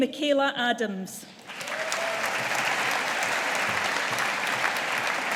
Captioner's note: audience applauding